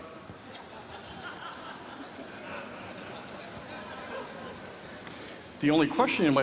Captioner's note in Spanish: Risas